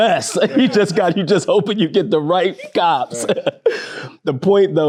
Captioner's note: laughing